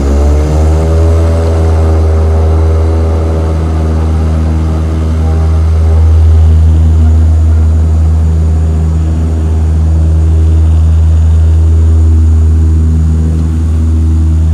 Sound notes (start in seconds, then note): 0.2 engine roaring louder; 7.5 engines roaring